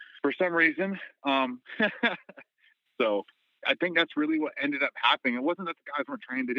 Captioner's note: laughter